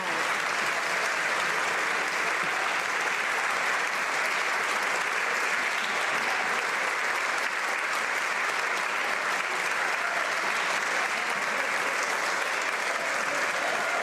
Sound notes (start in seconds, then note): 2.6 some Applause